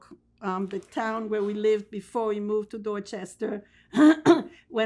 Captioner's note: clears throat